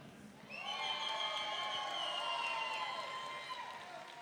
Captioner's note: audience cheering